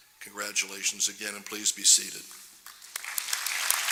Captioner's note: applause